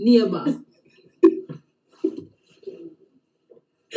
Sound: both giggling

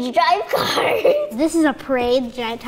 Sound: laughs

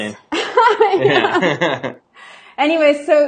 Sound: both laugh

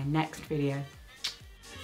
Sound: kiss

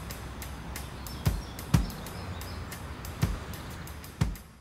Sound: birds chirping

